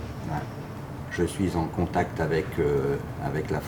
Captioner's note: speaking French